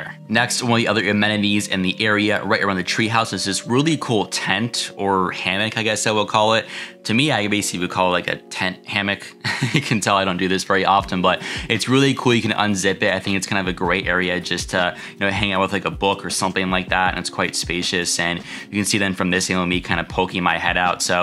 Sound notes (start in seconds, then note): 9.4 laughs